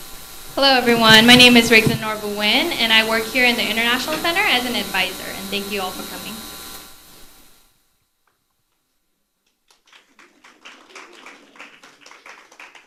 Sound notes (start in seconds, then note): 9.4 applause